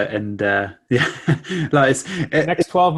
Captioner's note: chuckles